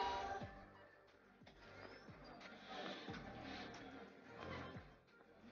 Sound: hospital chatter

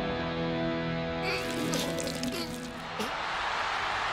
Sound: whimpers; cheers and applause

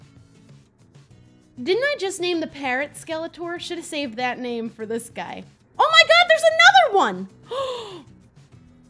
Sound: gasp

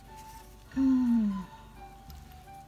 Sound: sigh

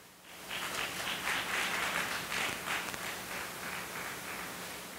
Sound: audience applauding

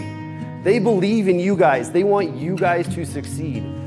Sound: none

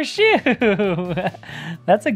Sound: laughs

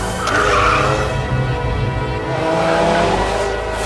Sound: ambient music; car squeals; ambient music; car engine roars

